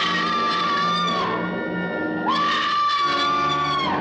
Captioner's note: person screaming